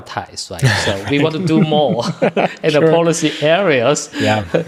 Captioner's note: laughter